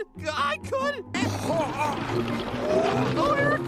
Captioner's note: gagging